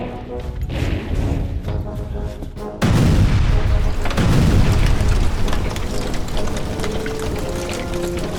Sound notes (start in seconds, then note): 2.8 explosion bangs